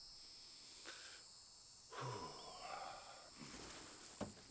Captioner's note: sigh